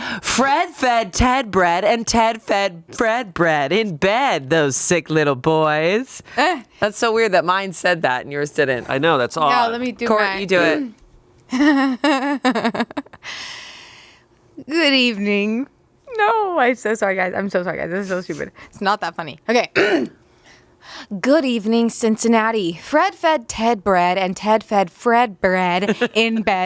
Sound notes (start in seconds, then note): 11.5 laughs; 19.7 clears throat